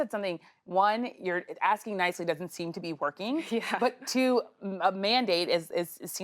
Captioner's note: laughter